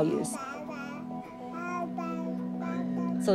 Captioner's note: baby babbles